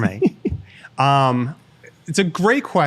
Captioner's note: laughs